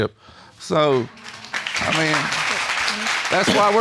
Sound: audience applauding

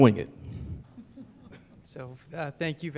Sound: laughter

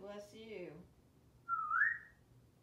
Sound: whistling

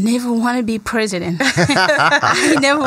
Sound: laughter

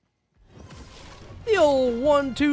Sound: level up sound effect

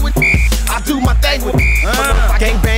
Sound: whistle

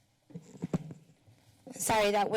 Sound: mic noise

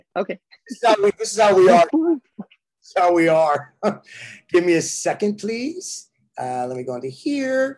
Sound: laughter

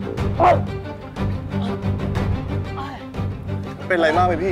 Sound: groaning with Pain

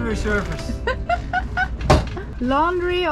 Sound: laughs

